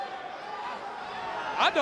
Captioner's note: crowd cheering